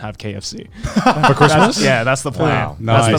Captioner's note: chuckling